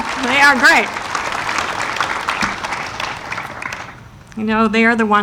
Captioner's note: audience applauding